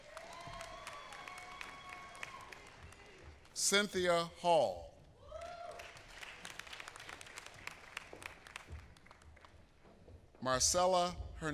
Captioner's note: applause